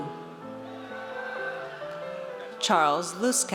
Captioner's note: audience cheers